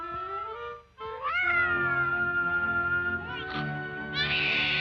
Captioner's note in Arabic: بكاء الطفل